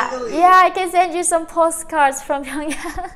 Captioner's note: chuckles